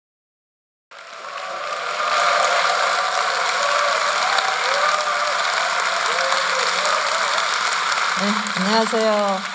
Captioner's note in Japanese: 拍手と歓声